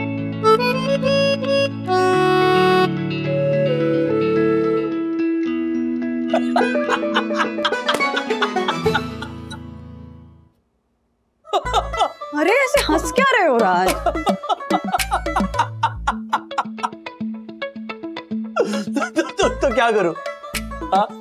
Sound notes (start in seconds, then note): 6.3 laughing